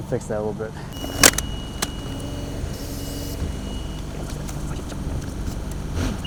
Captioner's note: fork truck motor humming